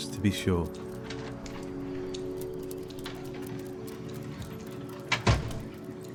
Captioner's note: dog claws clicking; door latch clicks; dog tags jingling; door bangs